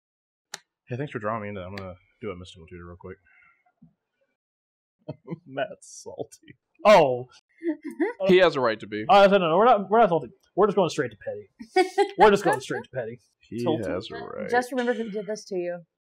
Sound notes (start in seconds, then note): 5.2 chuckles; 6.9 indignantly; 12.2 further mirth